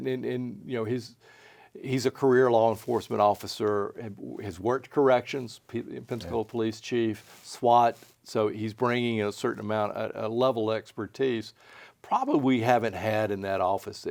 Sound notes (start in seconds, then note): none